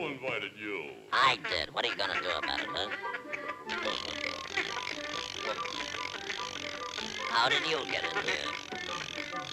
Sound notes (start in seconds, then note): 3.4 duck quacking; 3.7 meat grinder clicking; 9.3 playful music